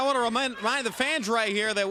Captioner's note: crowd chatter